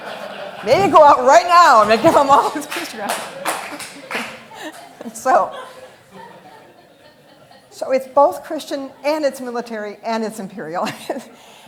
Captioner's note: laughter